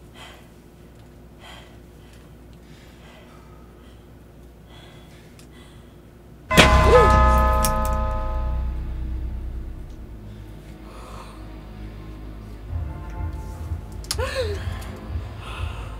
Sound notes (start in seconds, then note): 1.3 breathing heavily; 6.5 crash, doorbell